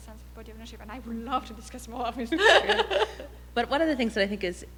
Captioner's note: laughs